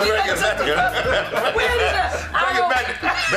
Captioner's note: laughter